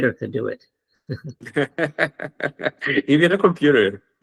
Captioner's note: laughs